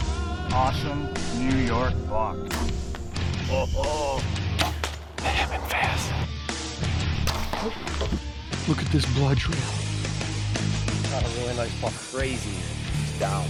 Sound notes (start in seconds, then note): 2.5 gun fires; 4.4 arrow slings; 7.1 arrow slings